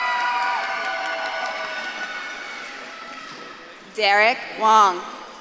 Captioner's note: audience claps and cheers